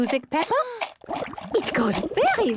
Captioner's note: shaker shaking, water bubbling